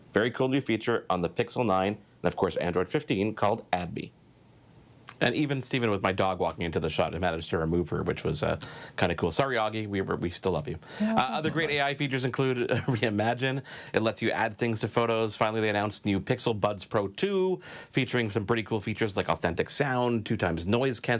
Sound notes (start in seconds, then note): 11.0 laughs